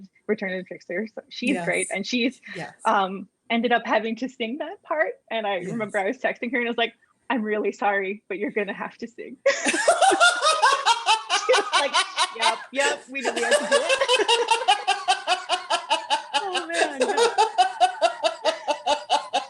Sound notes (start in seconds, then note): 9.4 laughter; 13.3 laughter